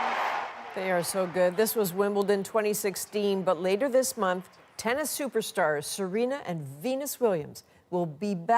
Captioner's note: cheers and Applause